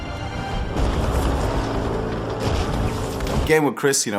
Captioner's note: building explodes